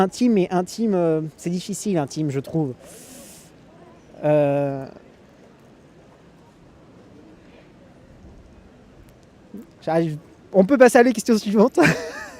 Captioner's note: laughs